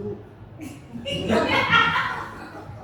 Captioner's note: laughter